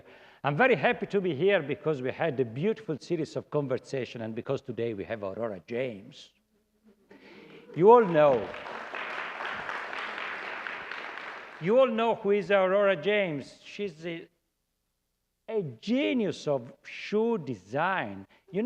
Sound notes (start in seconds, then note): 7.6 applause